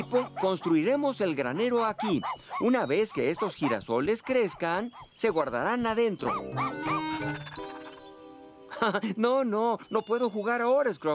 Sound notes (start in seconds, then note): 6.2 barking & Panting; 6.2 laughing